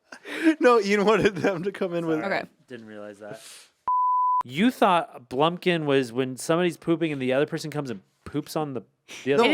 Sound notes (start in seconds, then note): 3.8 beep